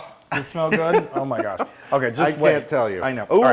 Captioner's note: laugh